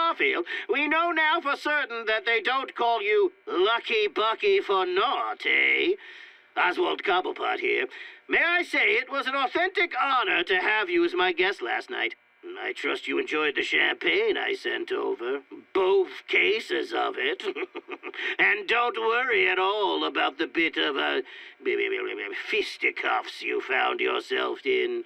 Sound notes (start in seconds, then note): 17.0 laughs